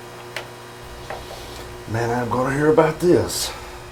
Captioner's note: machine buzzing